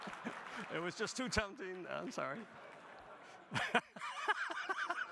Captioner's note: audience laughing; audience applauding; laughs